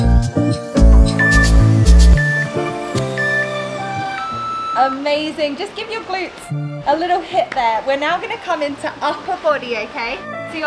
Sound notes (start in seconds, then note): 0.8 timer beeping; 1.0 waves whooshing